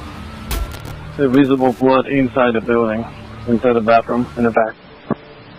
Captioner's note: radio traffic